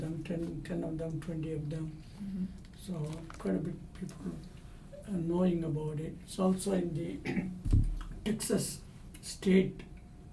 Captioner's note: clears throat